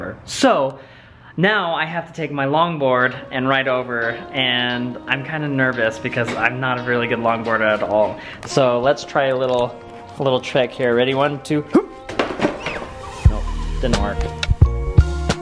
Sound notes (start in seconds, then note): 11.7 grunting